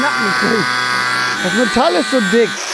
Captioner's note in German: Maschinenlärm